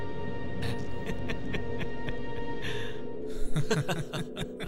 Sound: Bishop Laughs

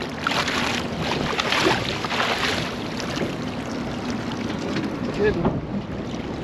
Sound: water splashing

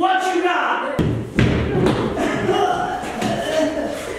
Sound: groaning

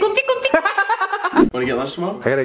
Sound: laughs obnoxiously

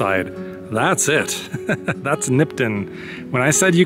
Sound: laughs

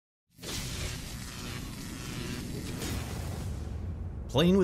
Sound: electricity crackling

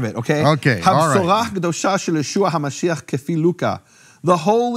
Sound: speaking in foreign language

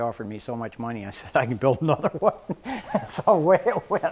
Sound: laughs

